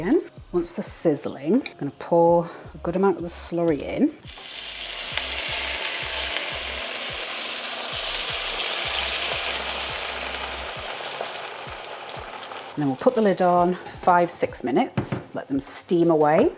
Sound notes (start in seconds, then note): 4.2 sizzly gush